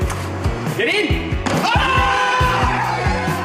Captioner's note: cheering